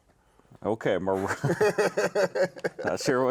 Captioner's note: laughing